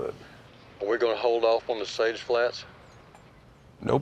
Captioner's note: on phone